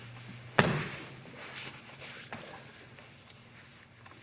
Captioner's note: loud thumping